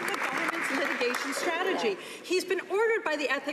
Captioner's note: some Applause